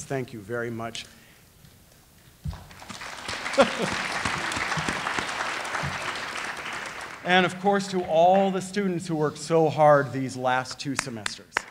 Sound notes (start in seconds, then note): 2.6 audience applauding; 3.3 laughing; 11.5 audience applauding and cheering